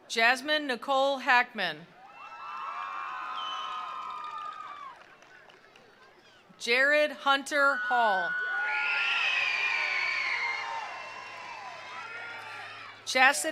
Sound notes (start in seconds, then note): 2.0 attendees cheering; 2.1 attendees applauding; 7.5 attendees cheering; 8.5 attendees applauding